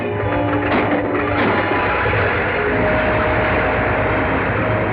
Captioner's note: plane whirring